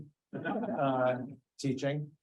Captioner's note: audience chuckling